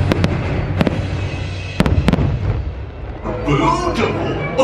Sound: fireworks banging

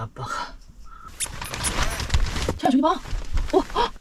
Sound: rustle rustle

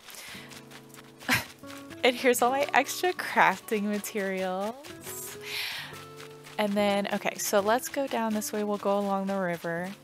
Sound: laugh

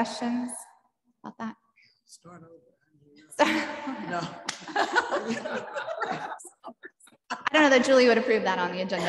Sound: chuckling

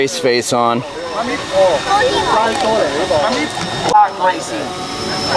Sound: crowd chattering

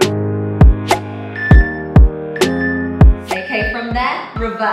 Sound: timer beeping

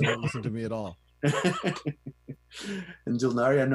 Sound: laughs

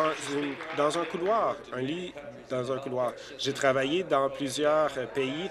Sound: applause

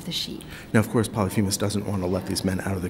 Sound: voiceover

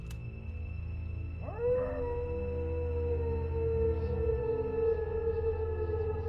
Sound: wolf howling

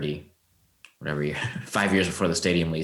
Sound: chuckles

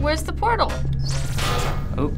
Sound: buzzing noise; clang

